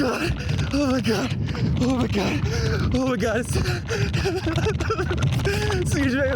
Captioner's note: sobbing